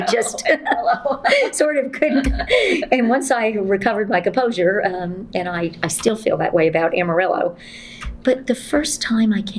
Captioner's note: laughter